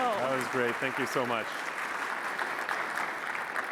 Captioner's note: applause